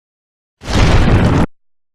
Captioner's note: boooooom